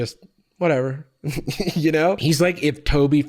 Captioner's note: chuckles